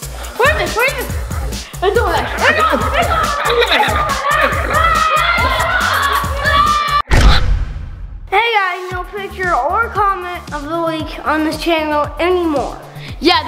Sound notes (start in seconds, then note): 3.8 weird alien noises; 4.5 boys screaming